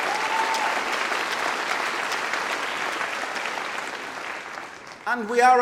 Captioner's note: applause